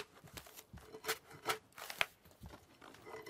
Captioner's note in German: Metallisches Schaben